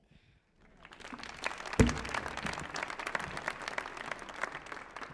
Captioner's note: audience applauding